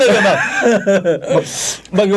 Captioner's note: laughing